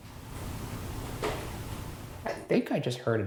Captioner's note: object taps